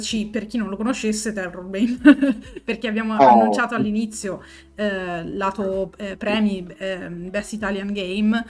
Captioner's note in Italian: risate